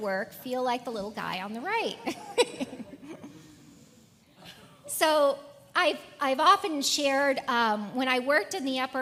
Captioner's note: laugh